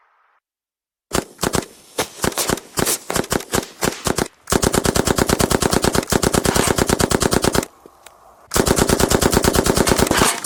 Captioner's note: gunshot noises